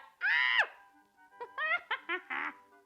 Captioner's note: screams